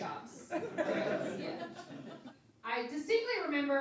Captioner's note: laughing